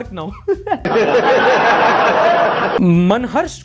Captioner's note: laughter